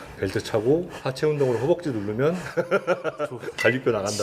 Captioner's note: laugh ON